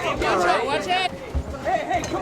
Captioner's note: group shouting